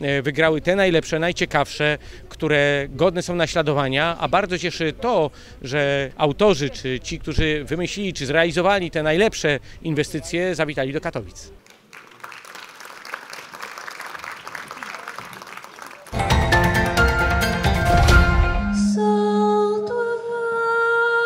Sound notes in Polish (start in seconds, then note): 11.6 oklaski